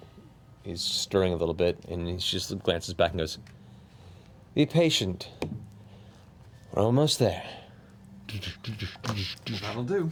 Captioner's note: hoofbeats